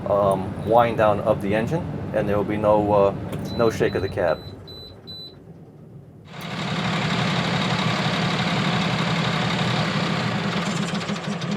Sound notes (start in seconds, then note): 3.8 truck rattling; 6.3 engine revving